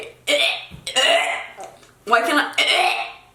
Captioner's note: gagging sounds